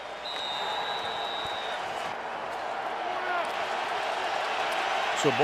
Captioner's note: whistle